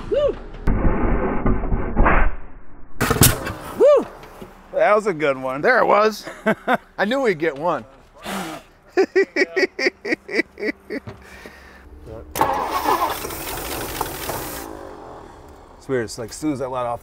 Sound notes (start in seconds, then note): 8.2 laughs; 12.3 engine struggles to start